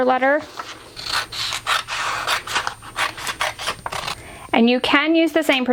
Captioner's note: paper crumpling